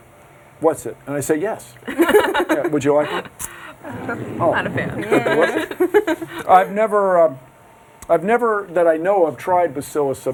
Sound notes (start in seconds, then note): 1.8 girls giggling; 4.6 giggling